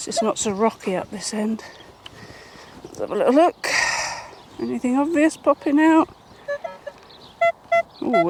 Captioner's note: beep Beep